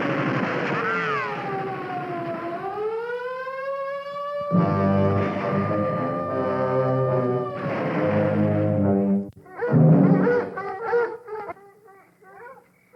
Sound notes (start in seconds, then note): 1.7 gunshots; 5.9 dogs barking